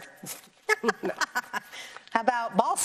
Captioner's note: chuckles